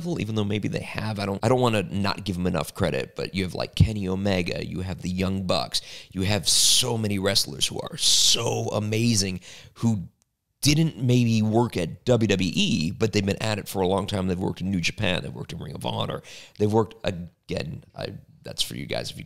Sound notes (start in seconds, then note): none